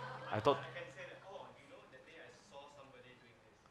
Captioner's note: faintly speaking